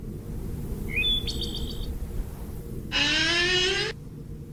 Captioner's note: bird chirping